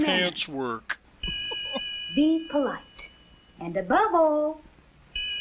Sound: ding!; chuckles; ding!

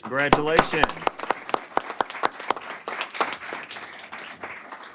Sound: applause

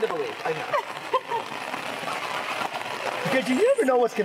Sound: laughing

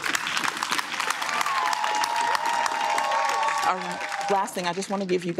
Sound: applause; cheering

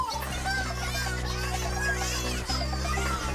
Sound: Bongolalas chattering

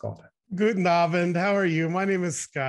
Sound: speaking in foreign language

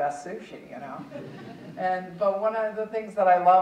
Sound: audience chuckling

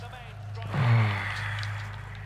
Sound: sighs

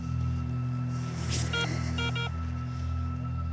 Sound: beeping

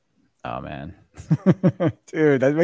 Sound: laughs

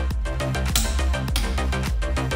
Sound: torque click

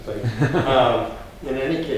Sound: laughs

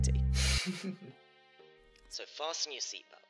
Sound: laughs

